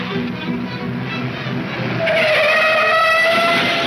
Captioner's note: tires screeching